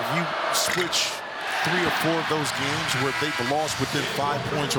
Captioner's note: cheers and applause